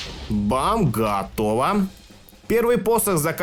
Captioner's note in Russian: бам